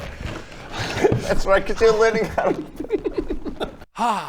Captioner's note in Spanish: risita